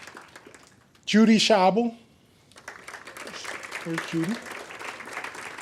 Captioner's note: audience applaud